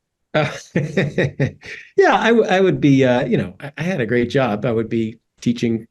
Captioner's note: laugh